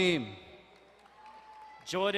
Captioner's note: distant cheering